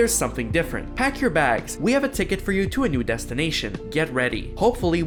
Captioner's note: reading letter